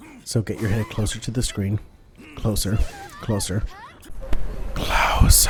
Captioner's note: whispers